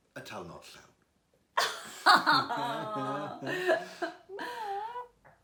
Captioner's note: laughter